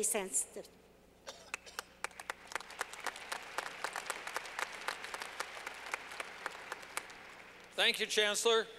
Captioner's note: clapping